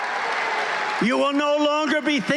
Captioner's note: cheering